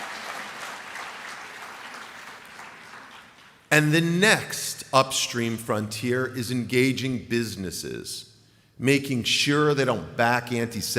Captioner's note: applause